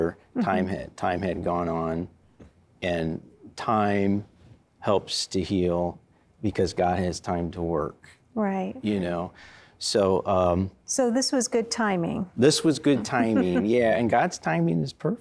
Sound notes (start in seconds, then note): 12.9 giggling